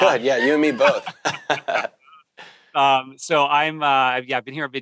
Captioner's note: laughing